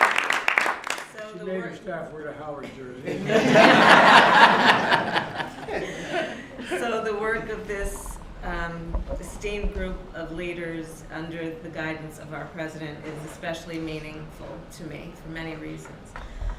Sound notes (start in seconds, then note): 0.0 applause; 3.0 laughter